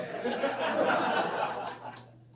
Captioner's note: audience laughs